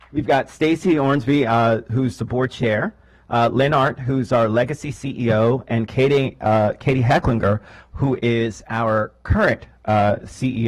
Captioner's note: clapping